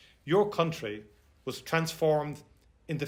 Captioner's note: none